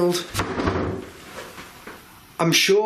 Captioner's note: wooden thudding sounds